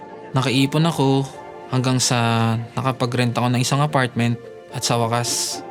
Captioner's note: none